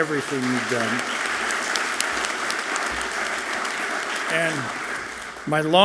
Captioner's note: audience clapping loudly